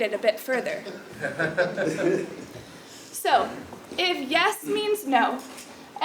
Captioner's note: laugh